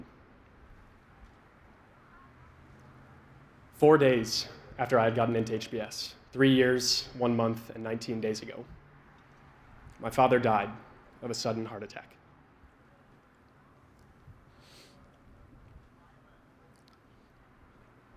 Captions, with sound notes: Four days after I had gotten into HBS, three years, one month, and 19 days ago, my father died of a sudden heart attack. [SNIFFLES]